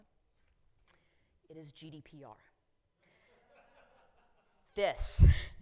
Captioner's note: audience chuckling